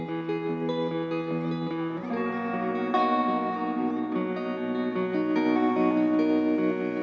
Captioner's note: gentle music; seagulls squawking